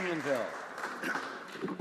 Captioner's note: some Applause